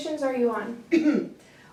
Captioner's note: cough